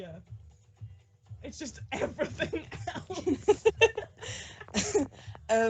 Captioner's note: laughing